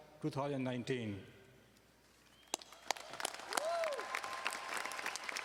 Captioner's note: audience applauding